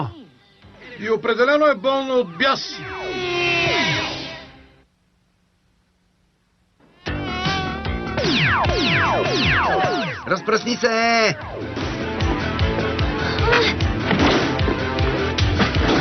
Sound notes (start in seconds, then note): 7.0 buzzing